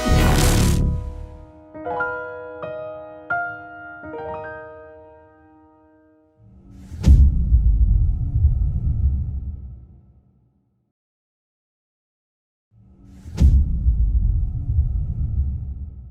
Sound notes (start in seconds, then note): 1.3 sentimental piano music playing; 6.9 dramatic sound; 13.6 dramatic sound